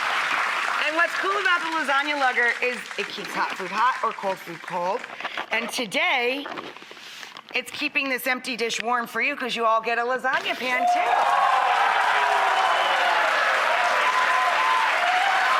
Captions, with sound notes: and what's cool about the Lasagna Lugger is it keeps hot food hot or cold food cold, and today it's keeping this empty dish warm for you 'cause you all get a lasagna pan too. (audience applauding)